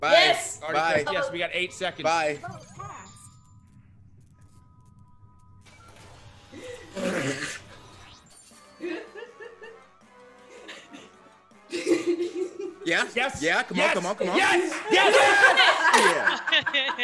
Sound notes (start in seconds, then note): 6.6 laugh